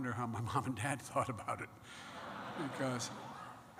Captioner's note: laughter